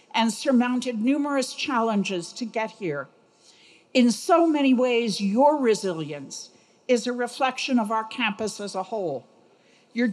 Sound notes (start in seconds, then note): none